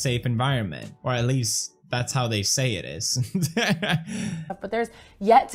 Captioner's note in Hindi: हंसी में तोड़ता है